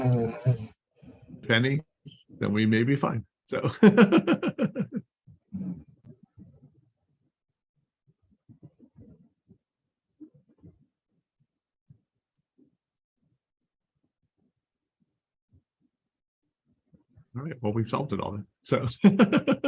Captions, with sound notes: Penny, that we may be fine. [LAUGHTER] We've solved it all.